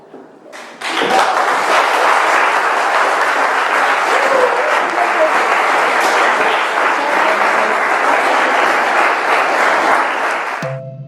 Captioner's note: applause